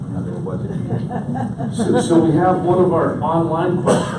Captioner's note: audience laughs